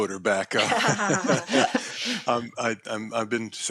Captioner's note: laughter